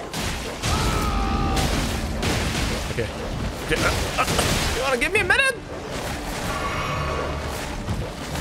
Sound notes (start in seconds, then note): 0.6 a dog walker’s roar